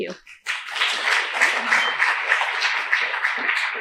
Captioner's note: applause